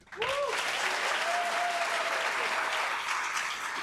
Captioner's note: cheers and applause